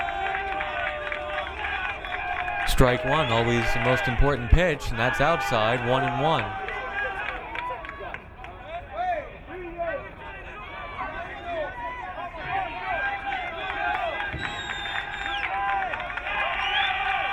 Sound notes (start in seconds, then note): 1.2 crowd cheering; 14.3 crowd cheering